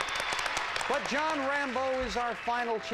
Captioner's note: audience applauding